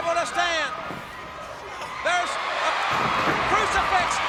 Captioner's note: body thudding; footsteps plodding; crowd cheering